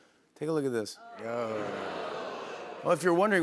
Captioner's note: audience groans